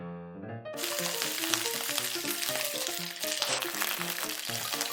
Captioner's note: splashingggggg